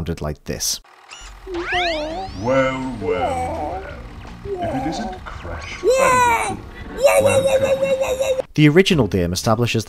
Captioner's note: woah noises